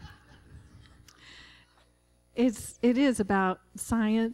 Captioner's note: laughter